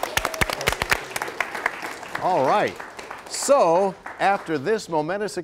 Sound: applause

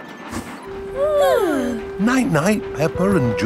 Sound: both yawning

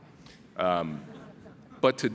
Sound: laughing

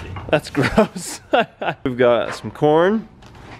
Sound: laughs

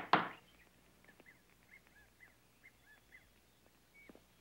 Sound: knock on door

